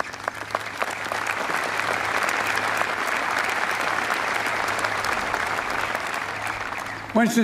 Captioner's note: applause